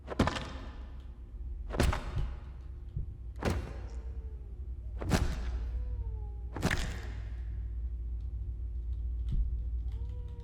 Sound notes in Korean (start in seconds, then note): 0.3 때리는 소리; 3.9 아기우는 소리